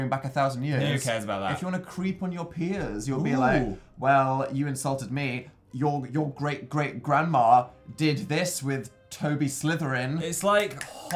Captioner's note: snaps